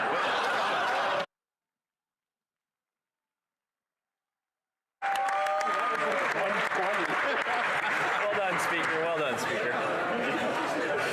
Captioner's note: some Laughter